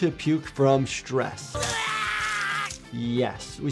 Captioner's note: person vomiting